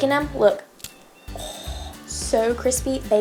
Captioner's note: cookie crunches